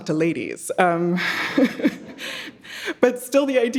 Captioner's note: everybody laughing